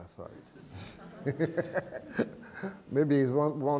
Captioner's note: laughter